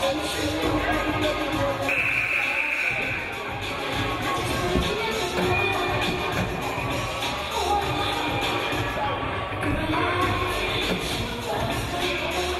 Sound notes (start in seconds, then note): 1.9 game buzzer buzzes